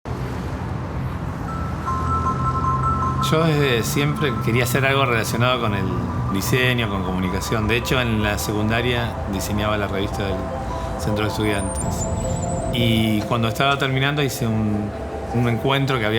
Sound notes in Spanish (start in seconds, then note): 0.0 música suave; 0.0 sonido ambiente tránsito